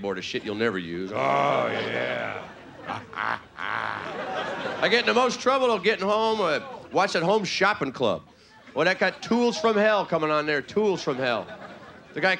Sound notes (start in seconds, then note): 2.9 playful grunting